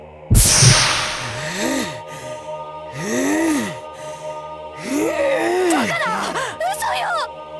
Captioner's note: strained grunts